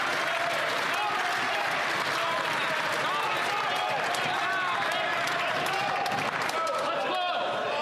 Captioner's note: some Applause